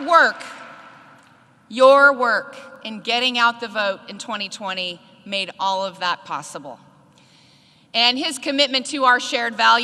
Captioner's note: applause